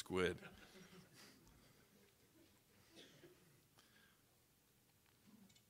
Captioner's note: audience laughing